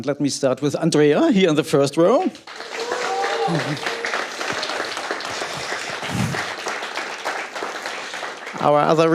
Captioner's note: applause